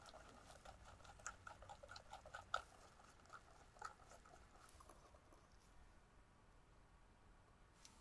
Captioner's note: bubbles